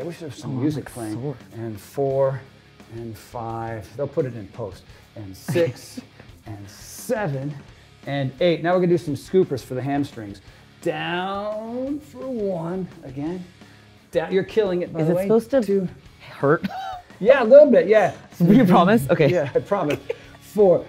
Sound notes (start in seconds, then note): 18.4 laughs